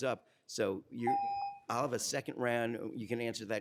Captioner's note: timer tone